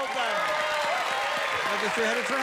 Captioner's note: cheers and applause